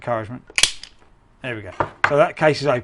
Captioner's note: pop